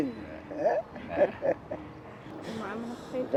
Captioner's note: laughs